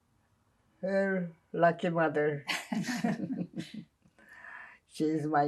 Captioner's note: laughing